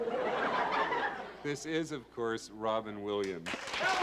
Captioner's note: laughter